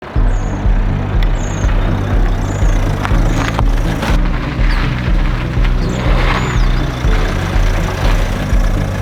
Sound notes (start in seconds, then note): 0.0 mellow music; 0.0 engine sound